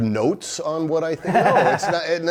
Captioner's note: laughs